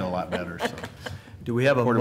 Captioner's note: laughter